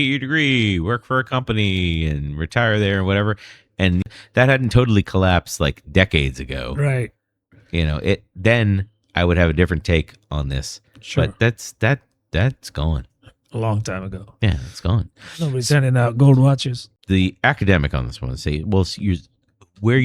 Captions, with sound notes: your degree, work for company and retire there whatever and that hadn't totally collapsed like decades ago. Right. You know it. Then I would have different take on this. Sure. That's that. That's gone long time ago. Yeah, it's gone [UH] we're sending out gold watches. the academic on this say, well, use where